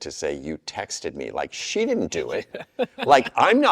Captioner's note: laughs